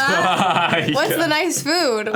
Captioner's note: laughs